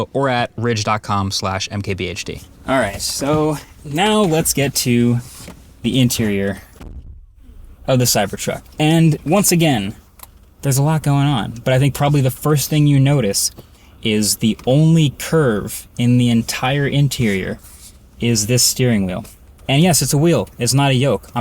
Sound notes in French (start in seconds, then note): 6.8 claquement de porte